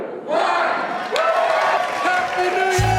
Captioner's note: applause